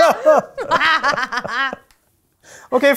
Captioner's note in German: Triumphales Lachen